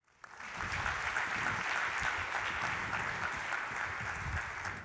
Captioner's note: applause